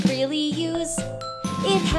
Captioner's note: ding Dong x2